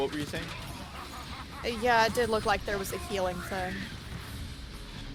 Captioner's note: laughs manically